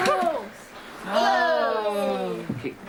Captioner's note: all exclaim